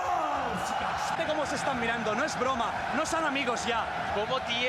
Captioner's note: cheer